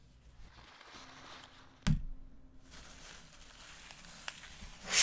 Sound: paper thudding; paper crinkling

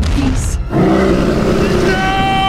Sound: roars

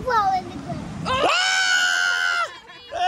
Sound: yelling

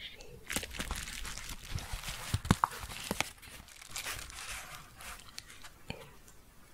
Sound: crinkling

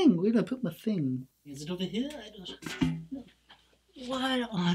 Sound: bucket clangs

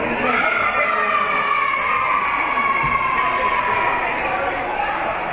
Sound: spectators and teams cheering

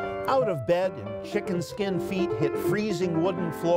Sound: playing in bright rhythm; reciting

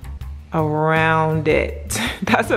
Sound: laughs

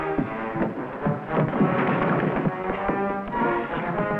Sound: scuffling

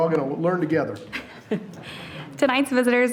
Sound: chuckling

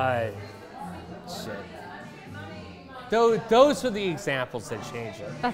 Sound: none

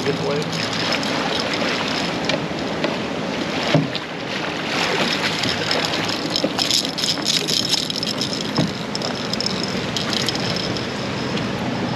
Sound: tackle rattling; fish thrashing

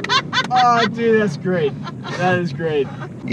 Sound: laughing

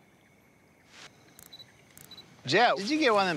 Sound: watch clicks and beeps

